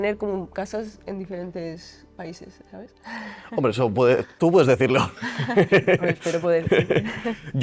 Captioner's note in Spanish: risas